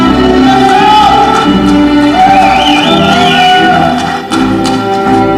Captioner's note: ceremonial music continues; audience cheering